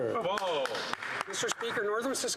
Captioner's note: some Applause